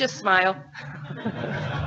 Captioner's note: laughing